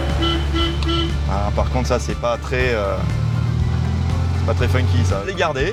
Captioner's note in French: le klaxon